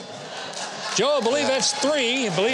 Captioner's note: audience laughs